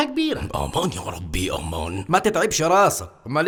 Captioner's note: Turkish